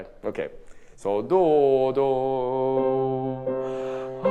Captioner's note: hums